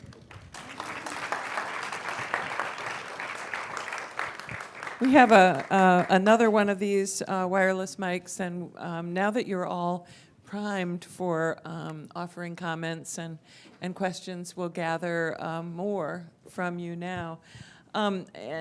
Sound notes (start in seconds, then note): 0.0 applause